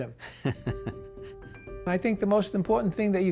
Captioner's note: laughing